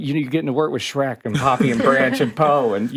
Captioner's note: podcasters chuckling